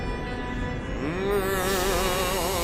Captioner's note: groaning